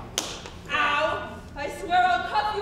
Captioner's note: hand smacks